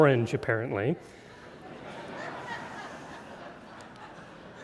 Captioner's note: audience laughing